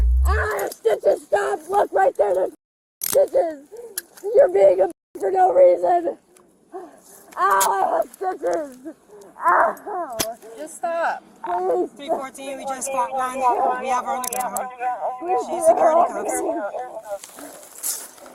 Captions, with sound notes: Ow, I have stitches! Stop! Look, right there, there's -- stitches! You're being a -- for no reason! Ow! I have stitches! Ow ! Just stop! Please 3-14, we just caught one - (Radio chatter) - We have her on the ground She's secure in the cuffs